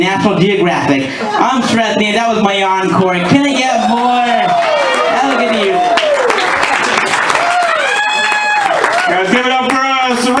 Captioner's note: laughter; cheers and laughter